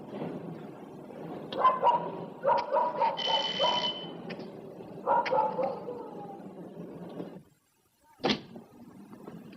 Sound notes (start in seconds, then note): 3.2 doorbell rings